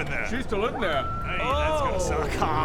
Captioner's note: screams